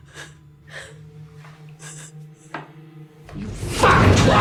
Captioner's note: crying